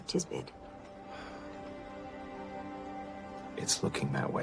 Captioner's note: sighs